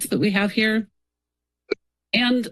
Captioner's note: pause